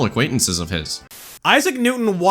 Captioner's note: static